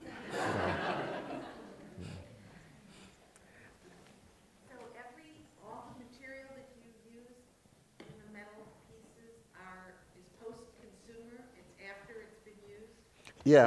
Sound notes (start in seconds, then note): 0.0 laughter; 5.0 voiceover